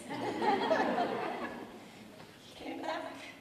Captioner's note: audience laughing